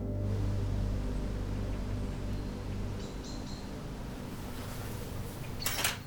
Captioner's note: birds chirping; wind blowing